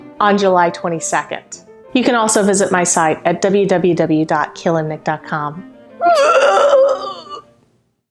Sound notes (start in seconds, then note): 6.0 barfing sounds